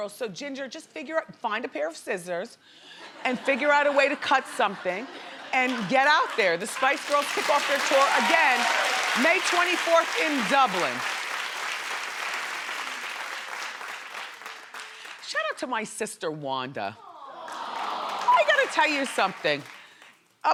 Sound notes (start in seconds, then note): 11.0 crowd claps